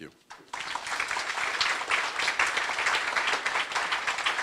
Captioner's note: applause